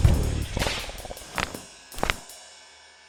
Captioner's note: crack; crackity-crack